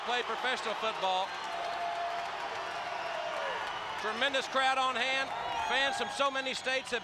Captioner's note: applause